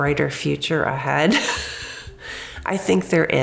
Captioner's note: laughs